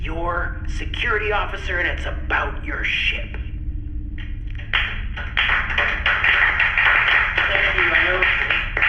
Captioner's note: scattered applause